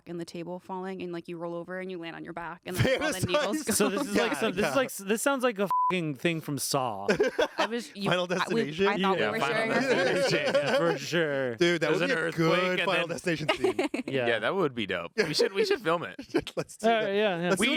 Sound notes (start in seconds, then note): 5.7 beep